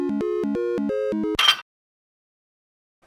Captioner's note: happy music; metallic clank